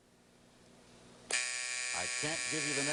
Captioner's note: buzzer